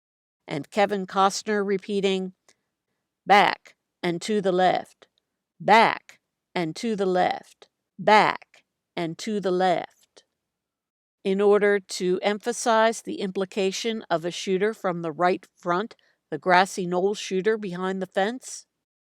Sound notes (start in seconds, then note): 2.5 imitating Costner’s New Orleans accent